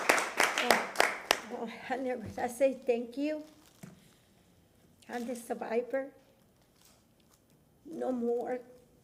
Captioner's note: applause